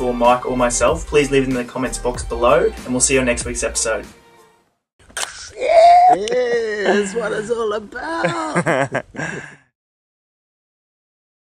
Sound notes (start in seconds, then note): 5.0 can opens; 8.0 laughs